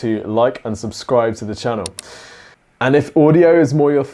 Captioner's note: mouse clicking